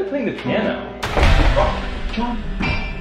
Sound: loud rustling

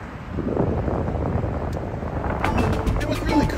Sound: wind whooshing

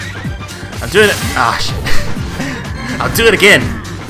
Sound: laughs

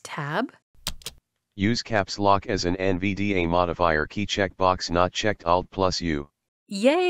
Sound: voiceover

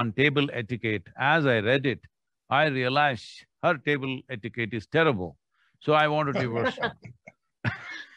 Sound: both laugh

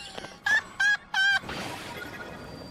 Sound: laughter

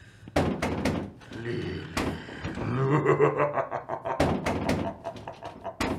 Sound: laughter

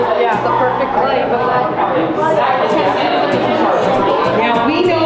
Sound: excited chatter

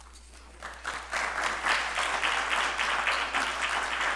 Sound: applause

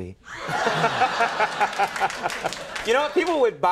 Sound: applause

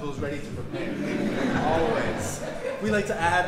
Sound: audience laughing

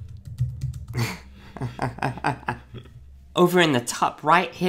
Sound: laughing

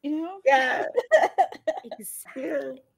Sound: laughs

